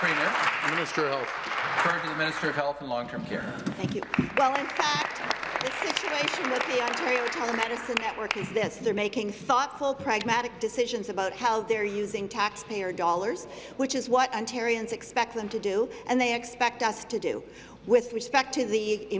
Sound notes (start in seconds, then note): 0.0 applause; 7.4 applause